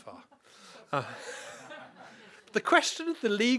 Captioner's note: laughter